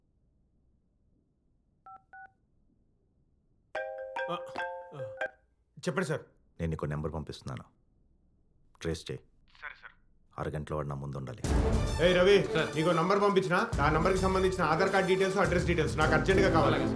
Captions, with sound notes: (Phone rings) Tell me. I am sending you a number. Trace it. Okay, sir. I need him within 30 minutes. Hey, Ravi... - Sir... sending you a number... Trace his details, ADHAR card number and his address. It's urgent! - Okay, sir